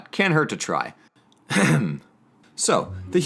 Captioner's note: clears voice